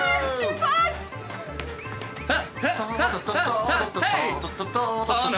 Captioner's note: laughs